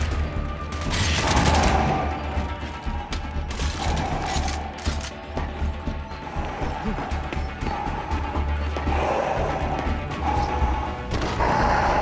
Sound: gunfire

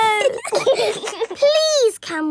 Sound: giggling

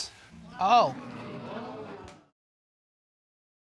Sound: audience gasp

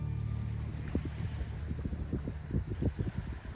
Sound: water lapping

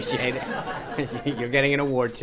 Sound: laughter

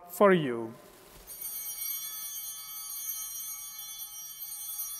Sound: bell ringing

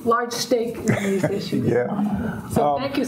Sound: laughs

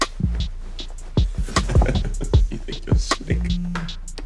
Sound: laughs

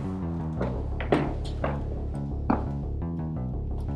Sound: footsteps

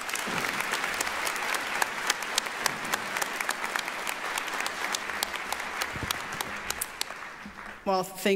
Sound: applause

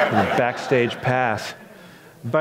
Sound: audience laughs

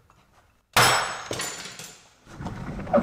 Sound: bang

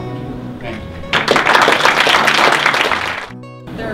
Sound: applause

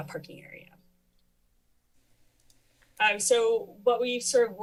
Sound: pause

